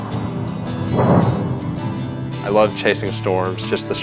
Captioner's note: thunder crackling